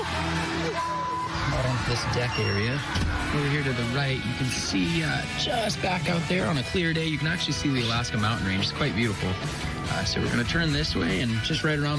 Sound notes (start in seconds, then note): 0.0 screams and laughs